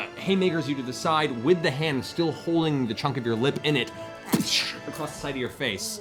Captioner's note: slamming impact